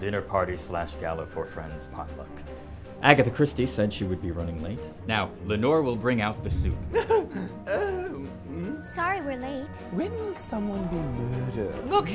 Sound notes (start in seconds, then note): 6.9 laughs